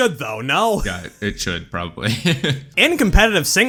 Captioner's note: laughs